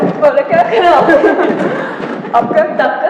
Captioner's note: laughing